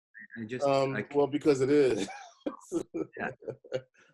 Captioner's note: laughing